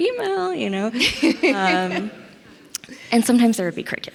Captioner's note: laughs